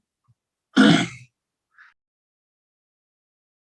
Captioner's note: clears throat